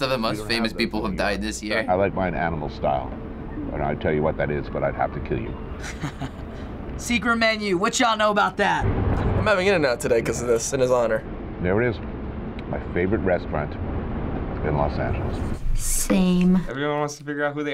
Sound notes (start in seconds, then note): 5.8 chuckles